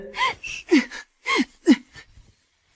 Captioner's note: cough, cough, cough